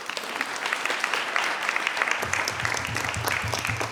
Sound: audience applauds

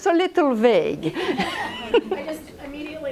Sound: laughs

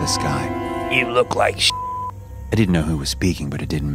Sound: beep

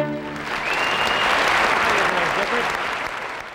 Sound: audience applauding

